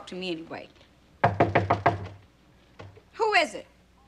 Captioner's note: knocking on door